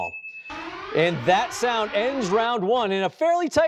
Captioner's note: alarm blaring